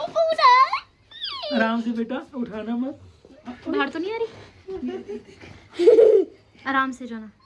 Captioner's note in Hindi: हंसी